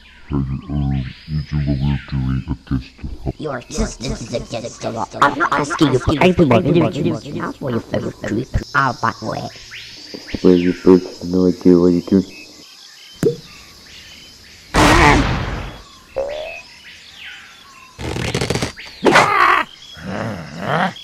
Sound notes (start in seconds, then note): 13.2 pop; 14.7 screams; 16.2 boing